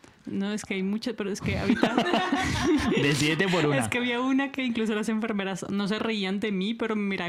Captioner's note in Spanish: risas